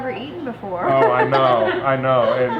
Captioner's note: laughing